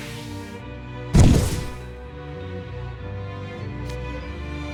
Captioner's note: poof